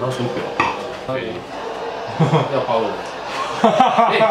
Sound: laugh

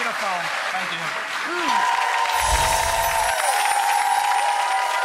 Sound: audience applauds and cheers

